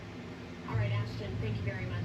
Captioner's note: on TV